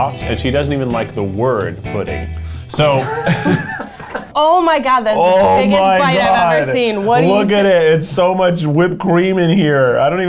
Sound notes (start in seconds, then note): 2.8 laughing